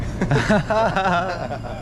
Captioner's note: laughter